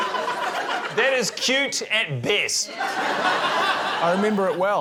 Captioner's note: laughter